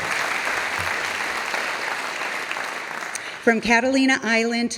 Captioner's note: audience applauding